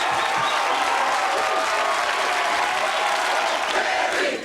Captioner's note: audience continues cheering